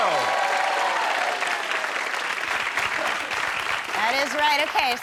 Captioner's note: audience clapping